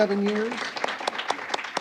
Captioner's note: applause